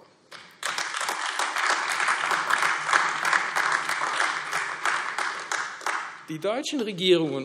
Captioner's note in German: Beifall AfD